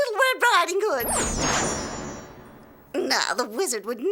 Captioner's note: zaps